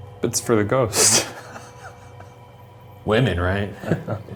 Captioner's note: laughs